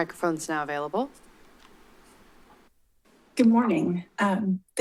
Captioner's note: silence